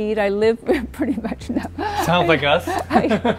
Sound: chuckles; laughs

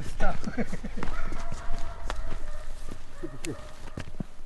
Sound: laughs

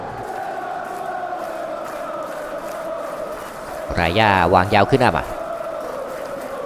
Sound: applause

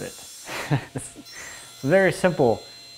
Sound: chuckles

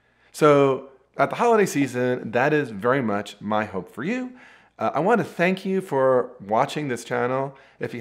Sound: none

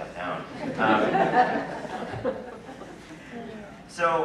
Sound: laughter

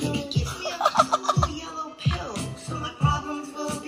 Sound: laughs

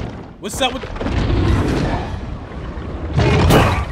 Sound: growling

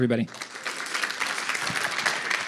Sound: applause

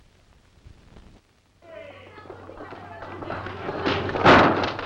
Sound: voices clamoring; gate crashing

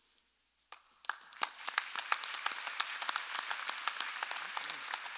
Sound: audience applauding

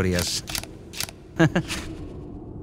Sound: chuckle

